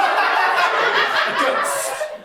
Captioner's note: audience laughter